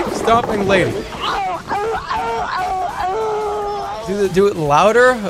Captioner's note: agony